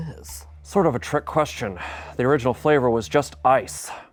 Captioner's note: sighs